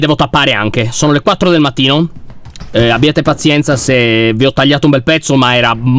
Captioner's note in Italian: rumore di passi